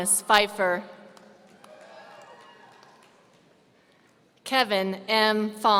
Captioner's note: audience cheering